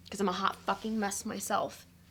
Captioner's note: none